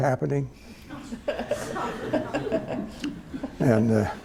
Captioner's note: laughter